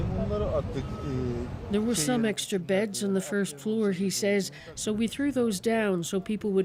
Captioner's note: speaking alternate language